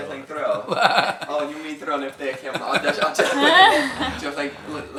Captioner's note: laughs